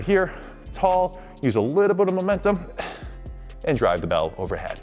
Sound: breathing

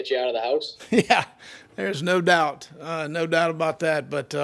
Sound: laughs

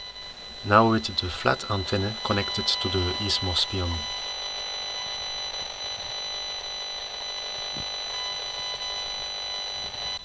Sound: sound comes from the Esmog Spion

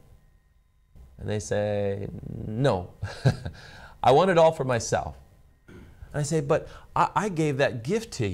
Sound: laughs

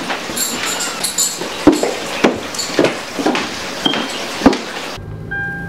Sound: walking loud with heels

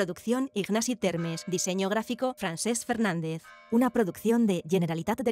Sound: bells

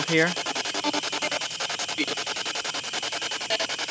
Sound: static pulsing

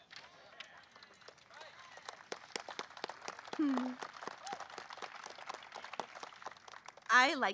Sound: applause

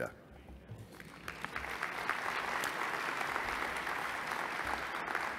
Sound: applause

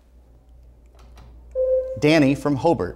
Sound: buzzer sounds

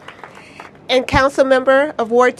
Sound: applause

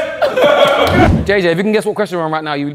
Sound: group laughs

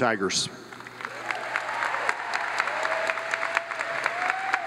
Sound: audience applauds

